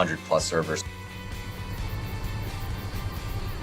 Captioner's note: engine roaring